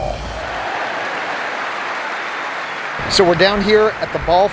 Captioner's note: cheering, whistling, clapping